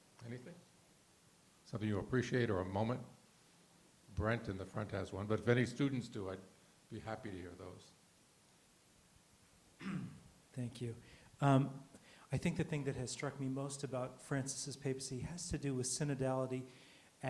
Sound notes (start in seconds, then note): 9.8 clears throat